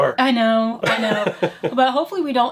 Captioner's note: laughs